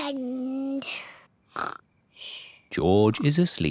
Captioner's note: snores